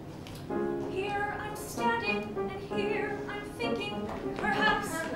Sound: timidly

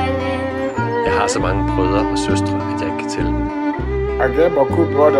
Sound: Danish

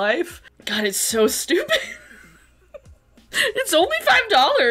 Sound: laughs

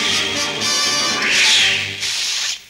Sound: whoosh

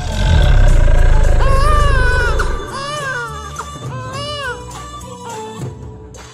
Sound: baby crying

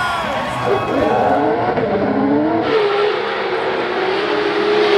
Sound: car engines revving

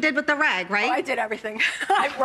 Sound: laughing

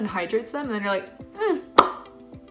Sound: smacks

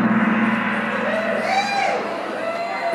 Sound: gong bangs; audience cheers

